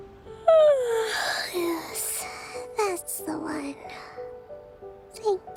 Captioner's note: yawns